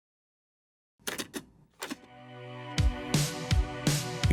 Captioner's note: cassette clicking